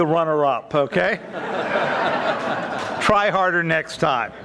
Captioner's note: audience laughing